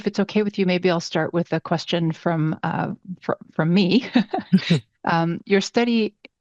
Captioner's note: laughs